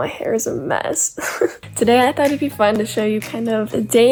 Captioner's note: laughs